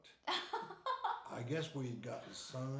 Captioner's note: laughing